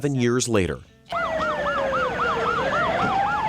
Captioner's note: sirens